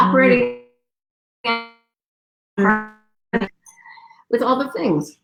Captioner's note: radio interference drowns out speaker